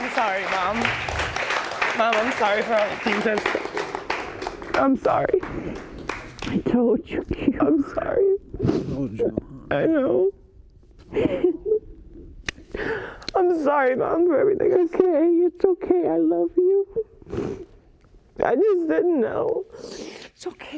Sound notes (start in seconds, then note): 7.0 sobbing; 11.1 sobbing; 17.2 sniffling